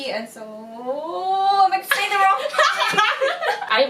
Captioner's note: laughter in the bg